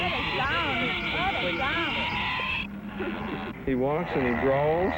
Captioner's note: people talking in the background